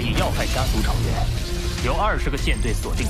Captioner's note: laser cannon recharging